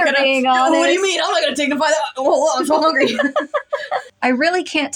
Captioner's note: both Laugh